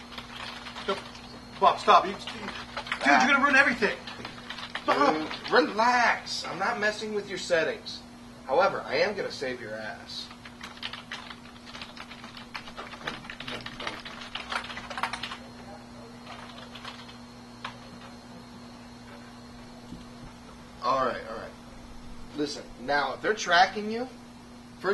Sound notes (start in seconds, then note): 0.0 furiously tapping keys; 4.3 fast typing; 12.5 keys tapping quickly